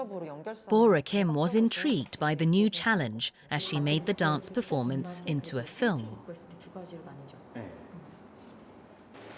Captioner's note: voiceover